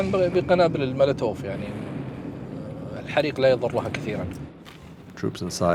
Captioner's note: speaking in Arabic